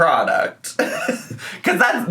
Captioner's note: laughs